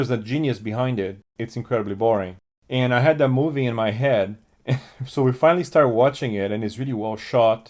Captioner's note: laughs